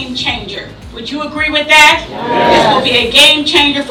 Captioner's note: audience agreement